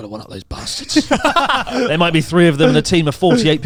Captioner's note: laughs